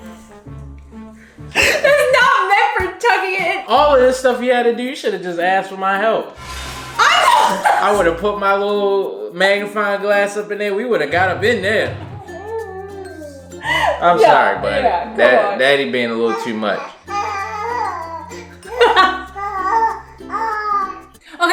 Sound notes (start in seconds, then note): 0.0 goofy music; 6.3 dramatic music; 11.9 baby cooing; 16.1 baby cooing; 18.7 laughs; 19.5 baby cooing